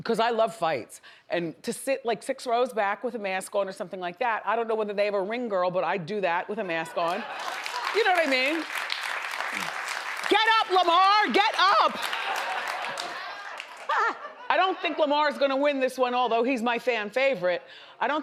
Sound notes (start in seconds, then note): 9.2 audience applauds; 11.7 audience laughs